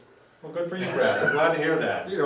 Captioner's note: laughs